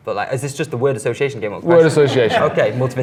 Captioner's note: laughs